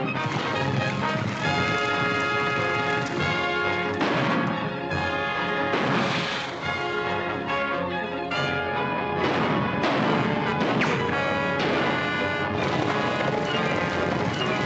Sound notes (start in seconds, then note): 0.5 tense music; 3.9 gunshots; 12.4 tense music